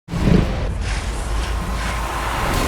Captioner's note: dramatic music; tiger snarling